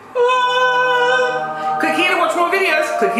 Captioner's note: makes high-pitched tone